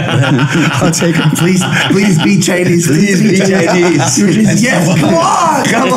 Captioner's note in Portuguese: todos rindo